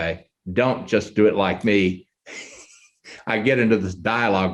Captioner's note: chuckles